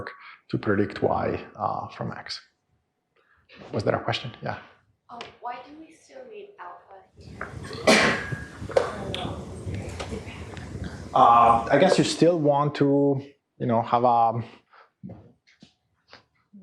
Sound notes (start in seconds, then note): 7.6 cough